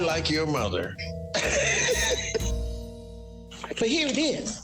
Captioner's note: laughs